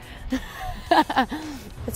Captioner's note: laughs